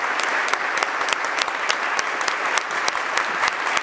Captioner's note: applause